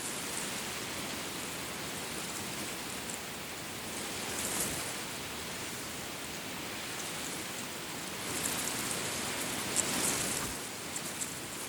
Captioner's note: reeds rustling loudly in the wind